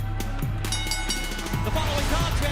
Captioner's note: bell ringing